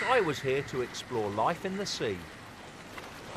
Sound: dinosaur shrieking

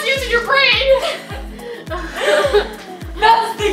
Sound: laughs

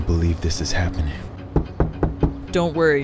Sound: knocking on door

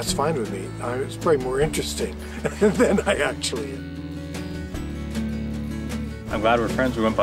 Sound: laughs

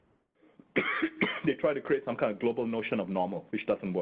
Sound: coughing

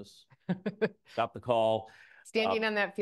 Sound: laughs

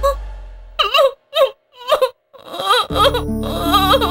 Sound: crying

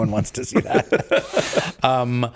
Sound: laughing

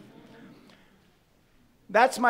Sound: audience laughing

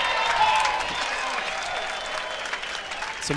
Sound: audience cheering

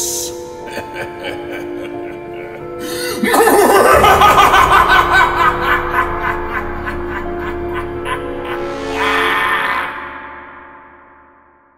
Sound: creepy evil laugh

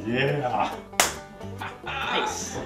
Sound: laughing; slap

